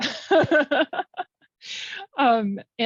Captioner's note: laughing